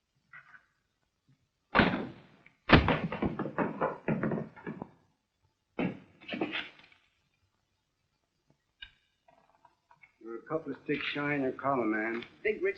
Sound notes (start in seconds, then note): 2.8 trashcan clattering